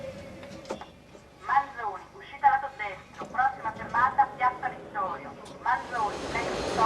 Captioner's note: automated announcments